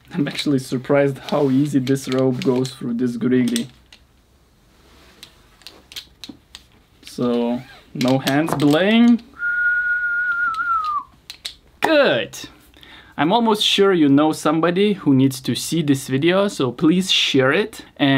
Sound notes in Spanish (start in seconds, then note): 9.3 silbidos